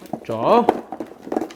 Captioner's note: rummaging